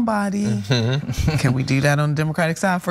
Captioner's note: laugh